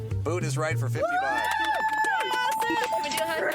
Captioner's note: bells ringing